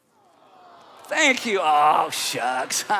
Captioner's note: audience responding